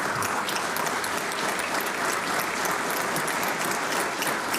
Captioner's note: applause